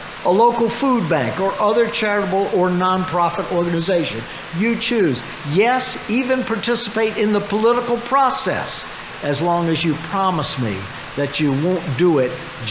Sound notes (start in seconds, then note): none